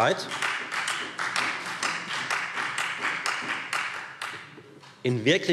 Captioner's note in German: Beifall Freie Demokraten